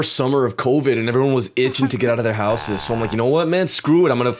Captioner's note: sobbing